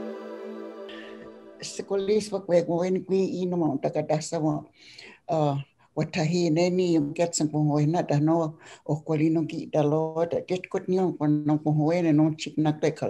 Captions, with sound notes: [Speaking Oneida] Hello everyone I guess I’ll start. My native name is Wathahine. I am bear clan and I’ve always lived in Oneida.